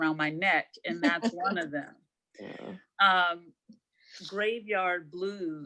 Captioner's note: laughing